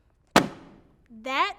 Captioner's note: sheets thudding